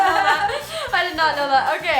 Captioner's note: laughing